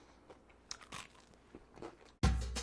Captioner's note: bread crunching; drum music